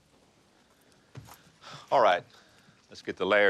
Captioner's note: sighs